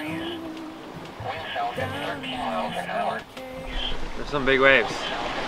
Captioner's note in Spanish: charla de radio